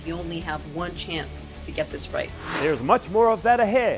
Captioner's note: sound Effects